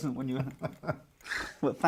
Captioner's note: laughs